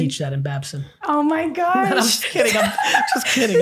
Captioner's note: laughing